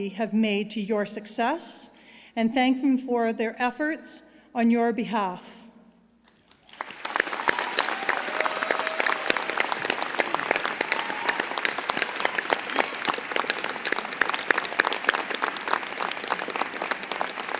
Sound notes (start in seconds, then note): 6.6 applause